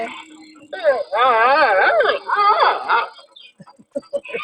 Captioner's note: panda squeaking; chuckling